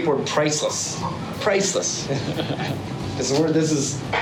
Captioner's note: speaking In Foreign Language